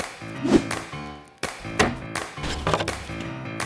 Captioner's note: upbeat jazzy music; swooshes